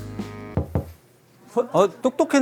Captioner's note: knock, knock